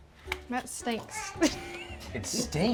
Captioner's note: laughs